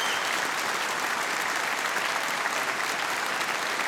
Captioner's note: applause continues